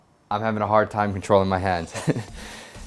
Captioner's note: laughs